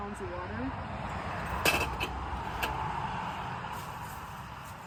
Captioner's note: vehicles swooshing